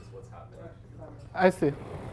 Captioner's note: faintly speaking